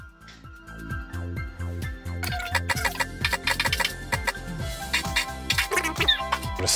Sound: laughs

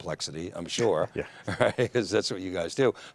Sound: laughs

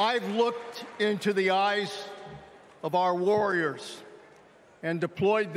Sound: cheering

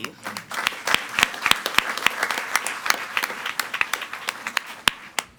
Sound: audience applauding

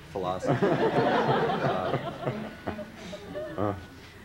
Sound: laughter

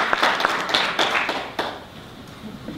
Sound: applause ends

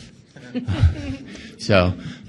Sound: audience laughs

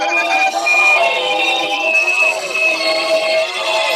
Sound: train approaches

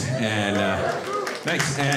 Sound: audience woo-ing and clapping

